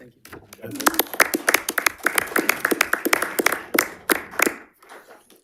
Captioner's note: audience applauds